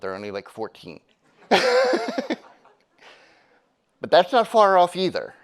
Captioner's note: audience laughing; laughing